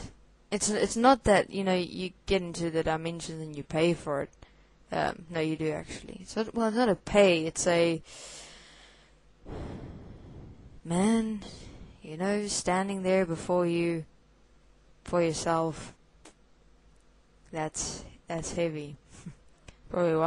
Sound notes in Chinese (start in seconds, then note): 9.4 深叹